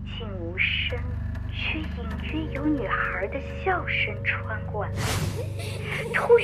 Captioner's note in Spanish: Pero se escucha el leve sonido de una niña riéndose